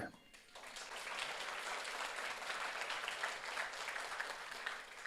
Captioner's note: audience applauds